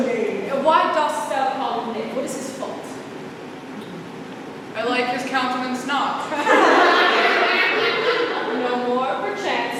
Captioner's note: laughter